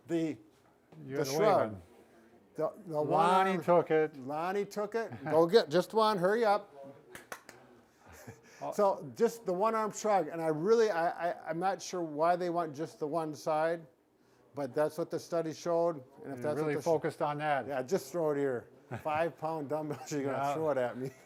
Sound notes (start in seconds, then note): 7.1 claps; 8.0 laughs